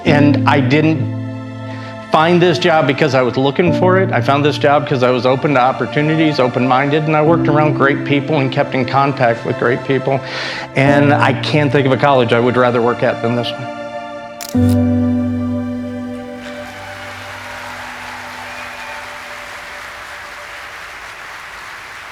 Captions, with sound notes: And I didn't find this job because I was looking for it. I found this job because I was open to opportunities, open-minded, and I worked around great people and kept in contact with great people. And I can't think of a college I would rather work at than this one. (audience applauding)